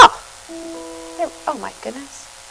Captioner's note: computer alert dings